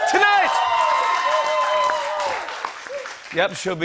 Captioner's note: cheers and applause